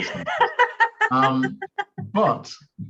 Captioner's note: laughs